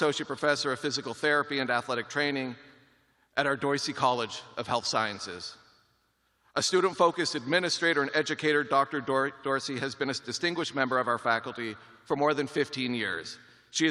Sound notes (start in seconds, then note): none